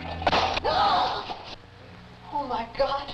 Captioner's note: frame crashes; lantern crashes; mother gasps